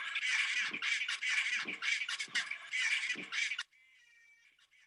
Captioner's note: penguins chortling